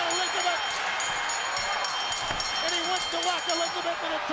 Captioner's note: bell ringing